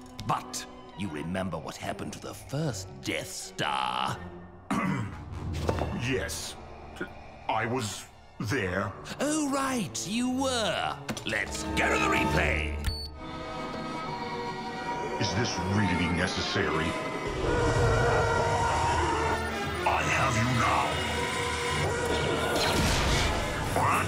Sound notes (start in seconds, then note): 4.7 clears throat